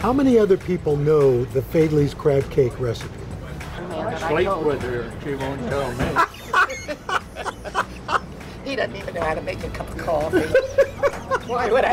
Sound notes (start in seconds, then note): 6.0 laughs